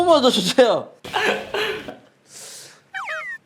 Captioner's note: laughing